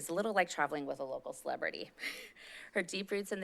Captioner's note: laughs